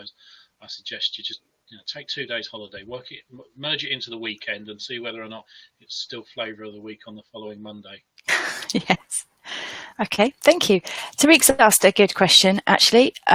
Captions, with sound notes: I suggest you just take two days holiday, merge it into the weekend and see whether or not it's still flavour of the week on the following Monday. (laughing) - Okay, thank you. Tarik's asked a good question actually.